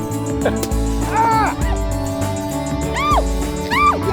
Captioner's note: couple shouting; balloon splatting